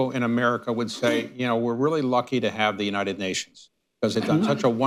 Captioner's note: laughter